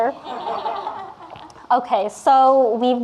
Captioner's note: audience laughing